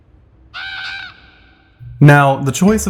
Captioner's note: crow squawk